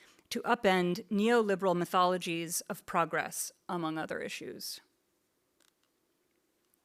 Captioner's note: none